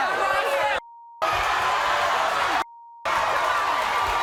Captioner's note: audience yelling